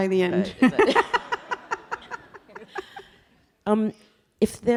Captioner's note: audience laughing